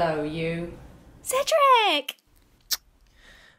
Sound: smooch

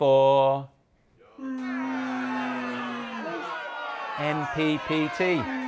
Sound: crowd Booing

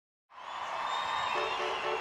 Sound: crowd cheers

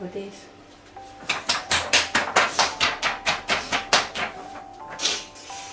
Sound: applause

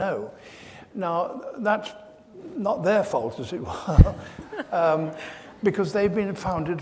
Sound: laughs

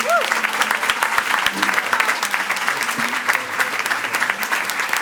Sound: attendees cheering and clapping

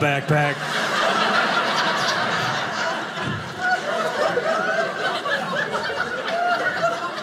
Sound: audience laughing

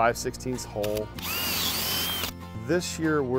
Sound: drill drilling

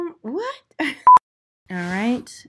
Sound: laughs; beeps

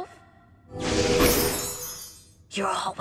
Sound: magical whooshing

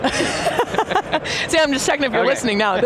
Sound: laughs

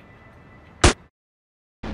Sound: awkward silence; pop

